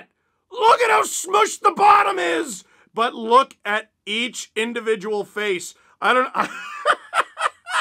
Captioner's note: laughter